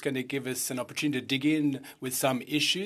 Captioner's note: speaking french